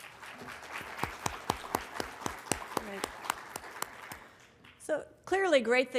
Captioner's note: applause